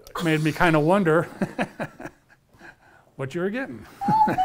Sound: laughs

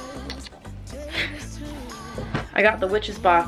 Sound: nervously laughs

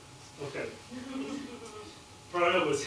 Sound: laughter

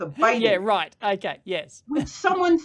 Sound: laughs

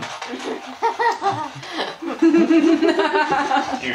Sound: laughing

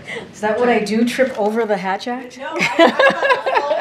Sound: laughter

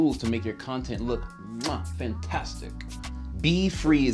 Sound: smooching

